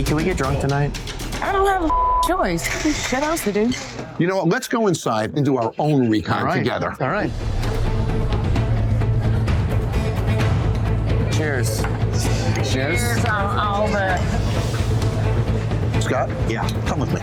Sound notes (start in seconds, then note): 1.8 beep; 7.9 dramatic music